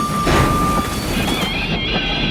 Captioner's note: loud bump